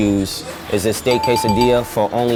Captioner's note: dinging